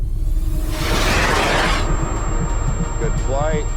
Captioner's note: rocket whirring